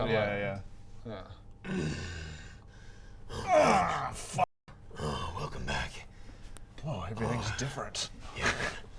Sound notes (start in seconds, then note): 3.3 urrrrggrrgrgggggggh